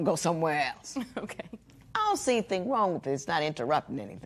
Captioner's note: chuckles